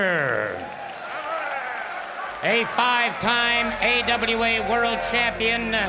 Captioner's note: applause